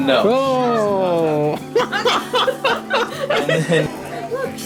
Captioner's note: laughter